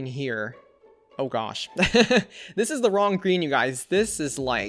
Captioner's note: laughs